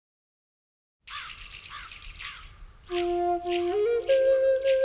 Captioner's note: birds cry; native American flute music